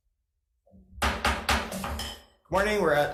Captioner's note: gavel banging